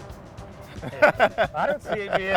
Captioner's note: both laugh